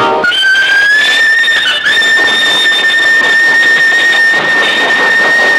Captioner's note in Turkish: Trenin uzun düdüğü